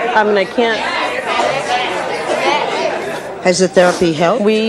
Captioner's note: audience hollering drowns out speaker